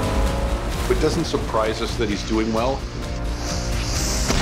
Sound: boat motor revving; water splashing

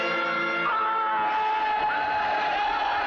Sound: screams

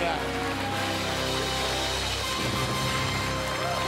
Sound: cheers and applause

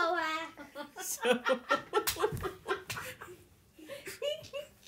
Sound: laughter

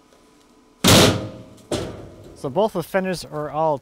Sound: slamming

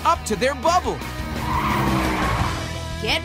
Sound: tires screeching

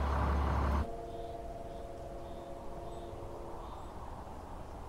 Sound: distant horn & wind

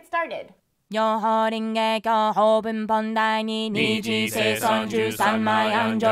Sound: chanting in foreign language

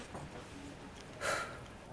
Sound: sigh

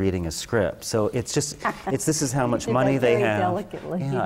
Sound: laugh

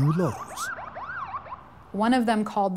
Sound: police sirens

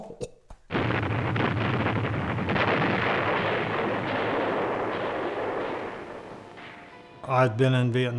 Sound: explosions

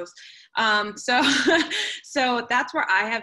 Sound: laughter

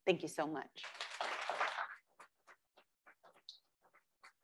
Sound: crowd applauds

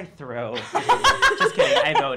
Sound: laughing

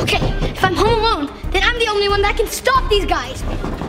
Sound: none

